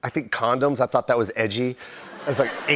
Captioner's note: laughter